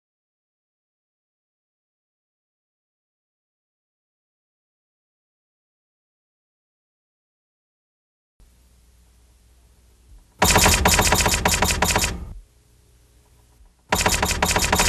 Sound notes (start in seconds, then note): 10.5 typewriter strokes